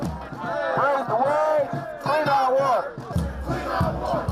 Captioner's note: crowd chanting